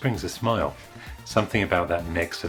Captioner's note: page Turn